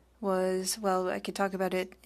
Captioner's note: speaking French